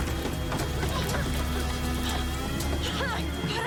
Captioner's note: coughing